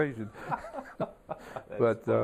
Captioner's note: laughter